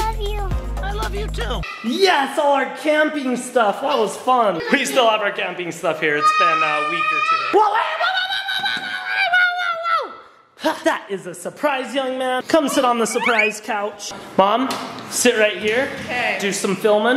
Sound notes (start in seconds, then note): 6.2 screaming